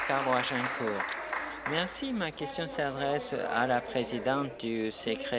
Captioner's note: applause